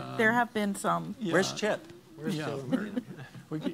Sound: laughing

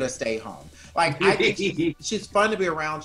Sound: laughs

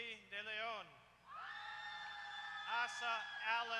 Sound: applause

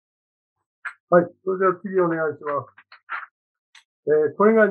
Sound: speaking japanese

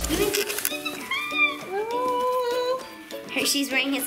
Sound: squealing

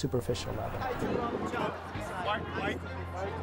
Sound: chatter

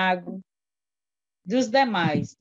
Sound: foreign language

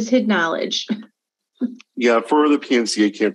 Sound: chuckles

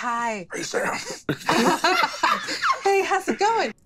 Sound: cast laughs

